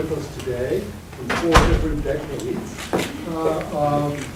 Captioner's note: banging